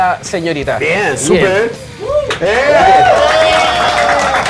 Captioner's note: cheers and applause